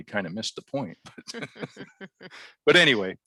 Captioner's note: both laugh